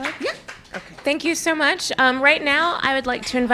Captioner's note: applause